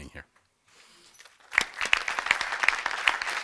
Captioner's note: applause